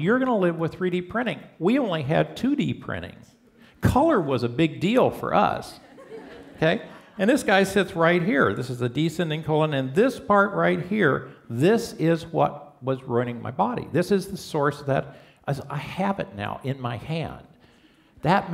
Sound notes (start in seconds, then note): 5.8 laughter